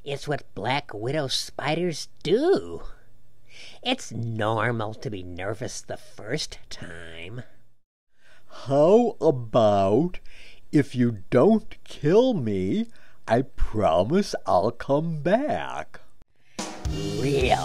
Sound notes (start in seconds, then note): none